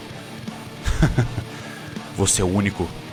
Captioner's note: laugh